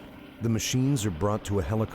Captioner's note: voiceover